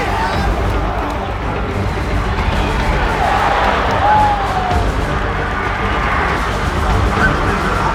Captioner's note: cheering